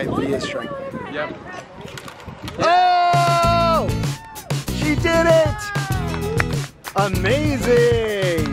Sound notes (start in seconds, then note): 5.6 family claps